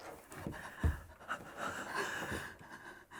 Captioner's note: both gasping